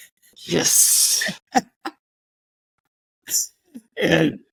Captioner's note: chuckles